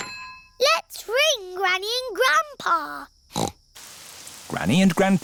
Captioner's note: snorts